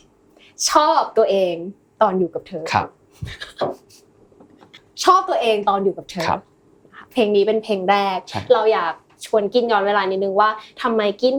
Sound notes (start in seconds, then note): 3.2 laughs